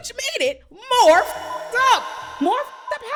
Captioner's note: beep